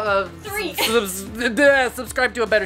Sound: frantically mumbling

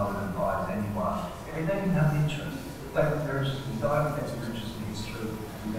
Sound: speaker's voice echoing on video

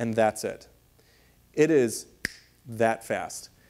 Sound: fingers snapping

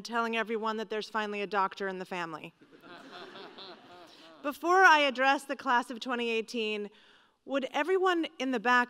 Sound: laughter

